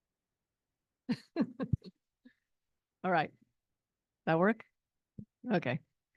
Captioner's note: laughs